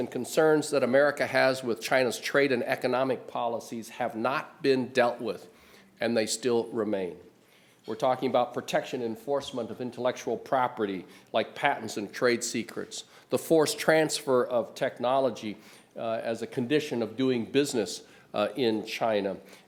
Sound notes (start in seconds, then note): none